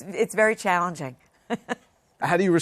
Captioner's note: laugh